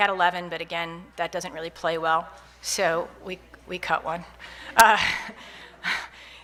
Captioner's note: laughs